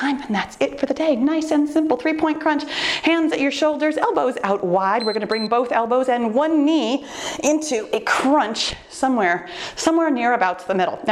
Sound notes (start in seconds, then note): 4.9 timer beeps